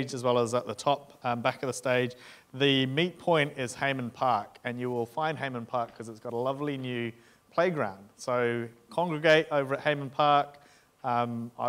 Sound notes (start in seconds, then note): none